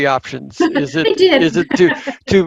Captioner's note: laughs